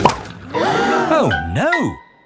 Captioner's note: all gasp